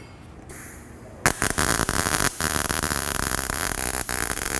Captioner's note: weld popping